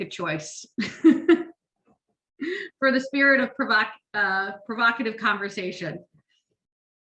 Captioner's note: chuckles